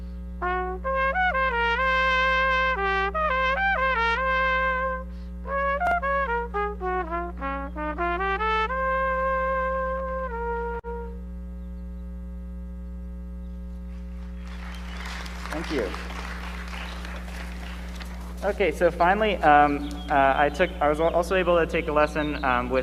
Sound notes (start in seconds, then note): 14.0 audience applauds